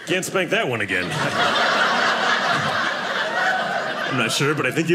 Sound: audience laughing

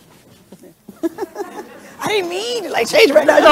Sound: crowd laughing

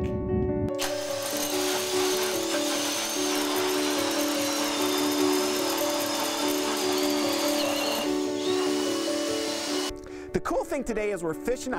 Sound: drilling

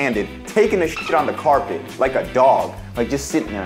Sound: dolphin chirping

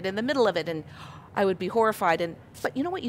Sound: gasp

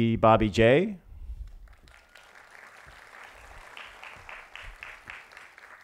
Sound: applause

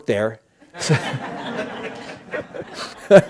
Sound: laughter

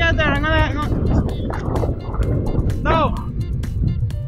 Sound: yells from distance

